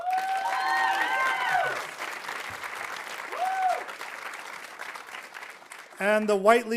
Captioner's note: audience cheering; audience applauding